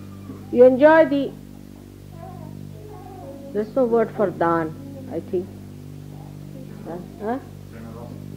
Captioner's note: in English